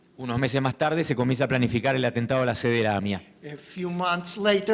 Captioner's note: speaking in foreign language